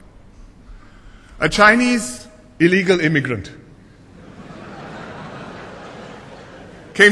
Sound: laughter

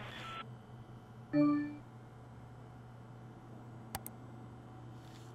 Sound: electronic dinging

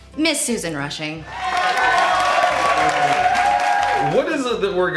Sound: cheering and applauding

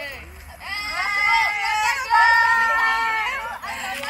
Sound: squeals of excitement

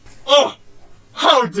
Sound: Bi-Han Scoffs

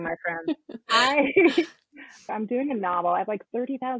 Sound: laughs

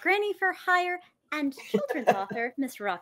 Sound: laughs

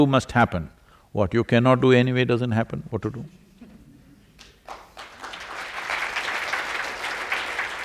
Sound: applause

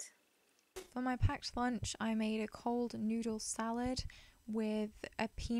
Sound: voiceover

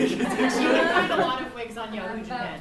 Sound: laughs

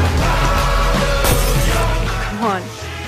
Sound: lightbulb shatters

